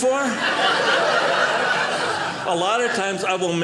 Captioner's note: audience laughing